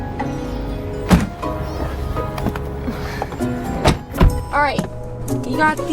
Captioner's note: trunk door slams